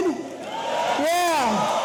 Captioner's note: audience cheering